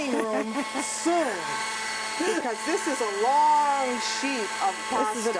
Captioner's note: laughter